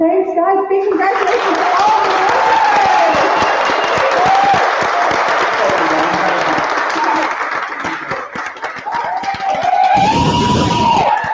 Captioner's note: applause